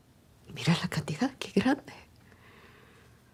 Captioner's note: speaking spanish